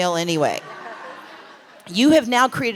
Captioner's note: laughter